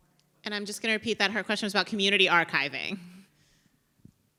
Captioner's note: chuckles